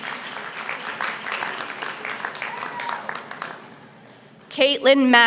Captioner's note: applause